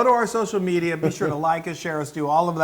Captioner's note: laugh